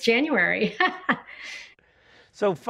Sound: woman laughs

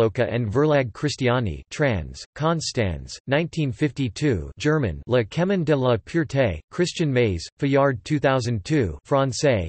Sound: German

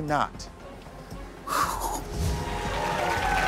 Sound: exhales; audience applauds

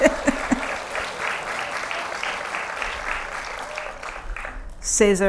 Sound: applause

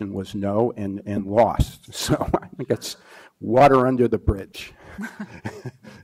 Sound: laughs

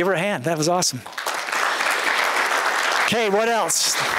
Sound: applause

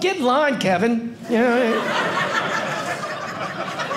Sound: audience laughing

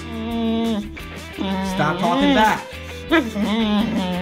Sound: dog wining

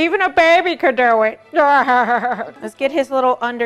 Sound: laughs deeply

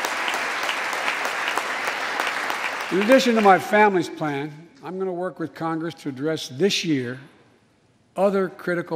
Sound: applause

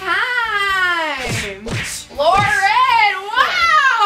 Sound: imitating whipping noise

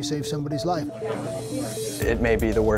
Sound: class chattering

